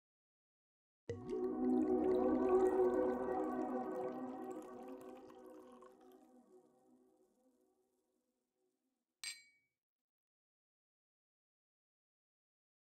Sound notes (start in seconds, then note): 0.0 silence; 1.1 wine pours; 9.2 clink